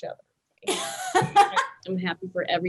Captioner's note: Meganne laughs